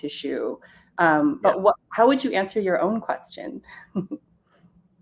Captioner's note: chuckles